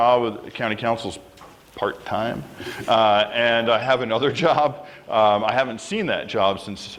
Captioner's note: laughter